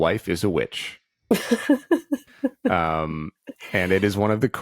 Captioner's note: laughing